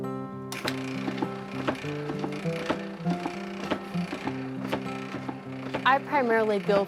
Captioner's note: machine thumping